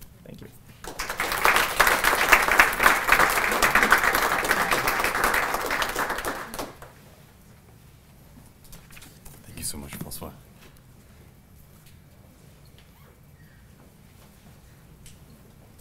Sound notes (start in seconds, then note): 0.8 applause